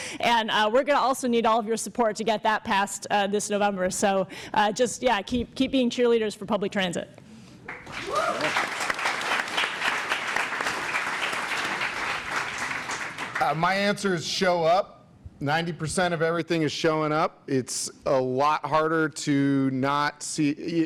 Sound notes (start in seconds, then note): 7.6 applause and cheering